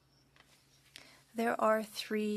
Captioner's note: speaking French